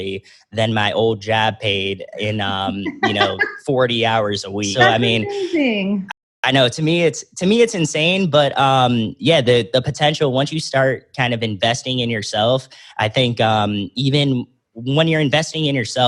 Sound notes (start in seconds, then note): 3.6 laughs